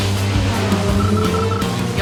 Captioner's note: 90s mobile phone sound